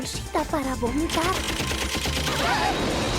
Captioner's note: gunfire; girls shriek